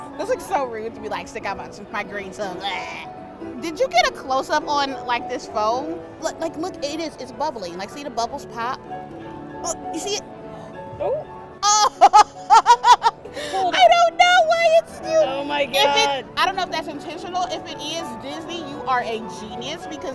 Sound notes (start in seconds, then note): 14.5 laughs